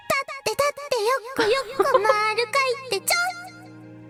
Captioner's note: chuckles